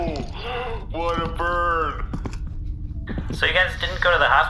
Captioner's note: over comms